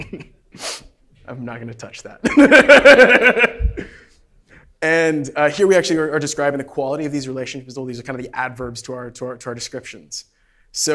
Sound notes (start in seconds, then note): 2.3 laughs